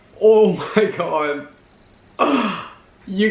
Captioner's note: gasp